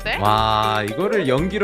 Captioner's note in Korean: 감탄